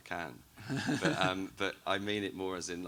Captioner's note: laughs